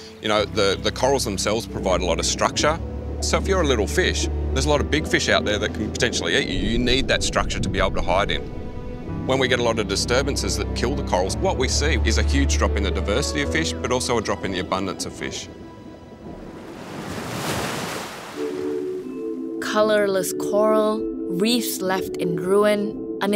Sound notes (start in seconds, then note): 15.6 waves crash; 18.2 soft music